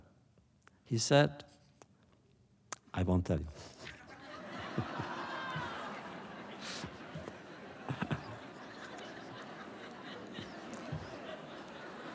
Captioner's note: laughter